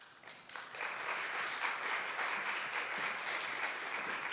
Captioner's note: audience applause